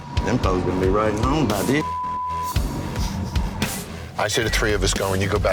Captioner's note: beep